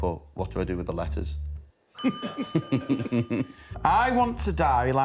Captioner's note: laughter